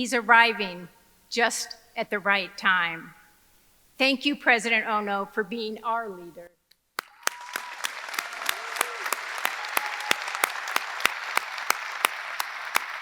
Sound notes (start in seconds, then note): 7.0 audience applauding; 7.0 audience cheering